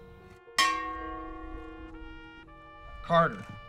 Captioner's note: bell clanging